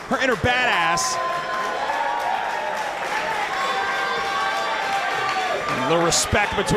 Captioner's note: applause